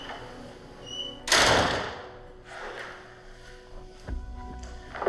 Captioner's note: door slamming